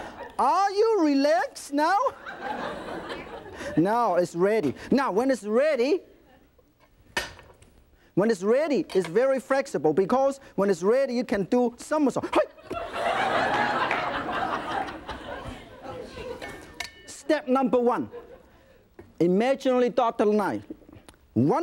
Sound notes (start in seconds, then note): 12.6 audience laughing